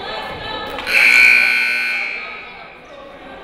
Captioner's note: buzzer